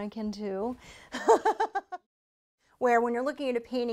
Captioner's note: laughter